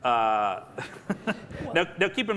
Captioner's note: laughing